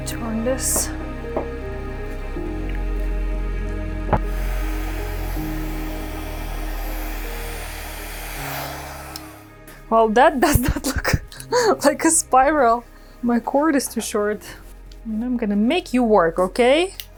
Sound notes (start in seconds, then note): 2.2 soft piano music; 4.0 blow dryer blowing